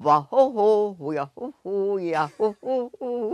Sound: silly vocalizing

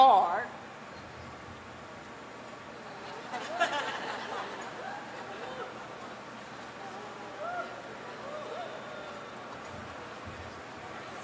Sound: laughter

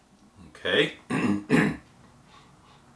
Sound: clears throat

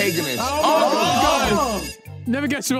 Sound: phone ringing

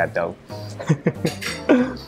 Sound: chuckles

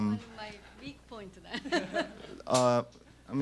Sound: laughter

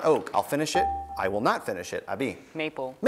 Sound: buzzer beeps

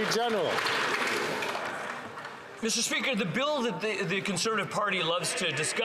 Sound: some Applause

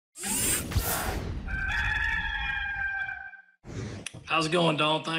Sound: whooshing; cock crowing

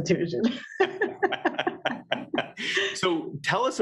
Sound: laughing

